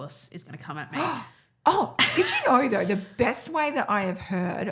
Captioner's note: gasps